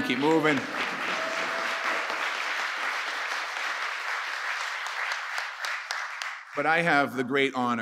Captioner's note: applause